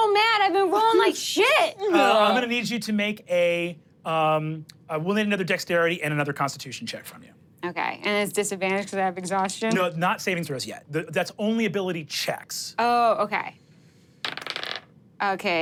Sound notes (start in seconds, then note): 1.8 groans; 14.2 dice rolling